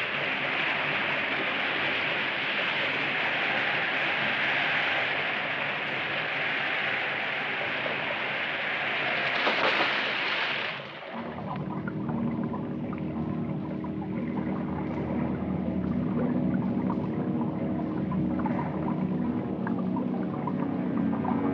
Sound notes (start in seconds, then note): 9.9 water splashing; 17.5 mysterious orchestral music